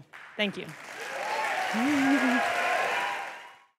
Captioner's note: applause